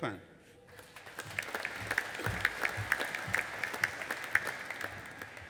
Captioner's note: audience applauding